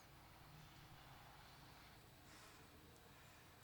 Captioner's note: none